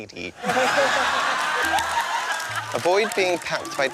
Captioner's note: laughter